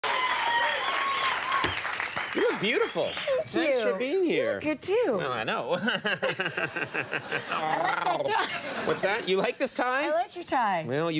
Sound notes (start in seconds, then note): 0.0 audience cheer